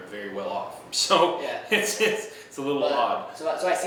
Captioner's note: laughing